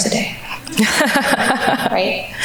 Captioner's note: all laugh